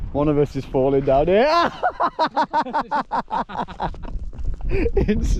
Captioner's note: men laughing